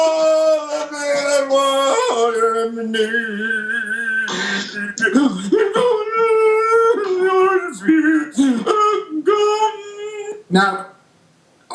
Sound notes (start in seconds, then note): 4.7 muffled voice through hands